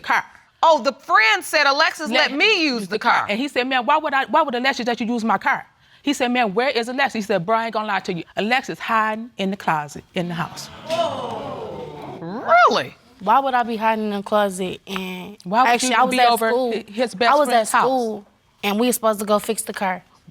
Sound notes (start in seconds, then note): 10.4 audience exclaiming